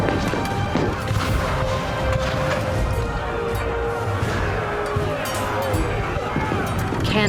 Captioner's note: cannon blasts, gunfire